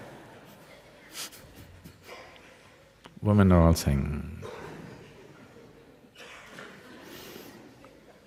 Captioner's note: laughter